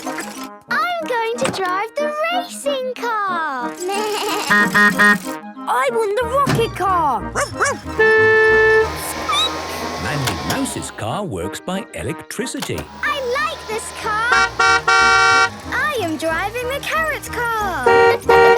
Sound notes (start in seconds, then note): 3.5 bleating; 4.5 honking; 7.3 barking; 7.3 squeaking; 7.4 honking; 12.9 honking